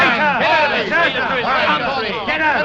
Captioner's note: all continue to shout